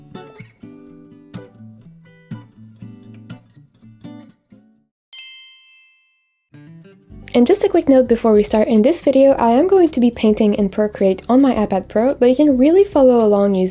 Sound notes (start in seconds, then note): 0.1 soft music; 5.1 bells chiming